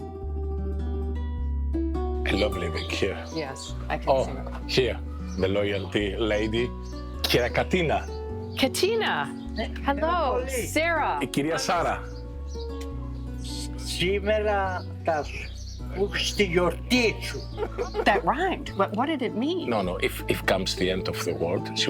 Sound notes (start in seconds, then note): 0.2 gentle acoustic music; 11.4 speaking in Greek